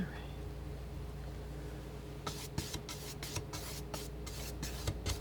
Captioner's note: scratching